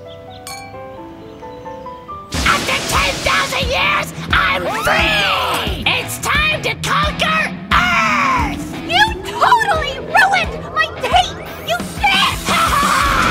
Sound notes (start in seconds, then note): 4.3 couple screams; 12.0 scream